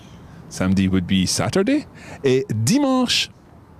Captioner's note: speaks in foreign language